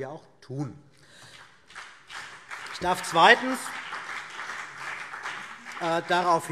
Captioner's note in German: Beifall BÜNDNIS 90/DIE GRÜNEN und vereinzelt CDU